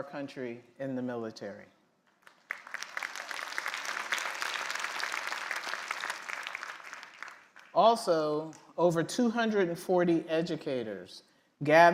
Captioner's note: applause